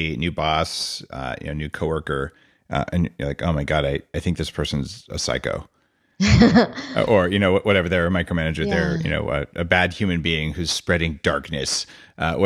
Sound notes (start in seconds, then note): 6.2 laughs